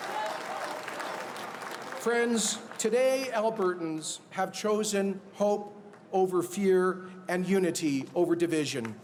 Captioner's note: cheers and Applause